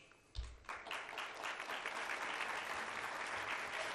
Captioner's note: applause